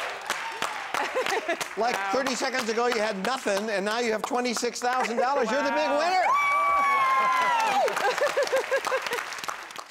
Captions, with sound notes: - Like, 30 seconds ago, you had nothing and now you have $26,000. You're the big winner. - Woo (laughing).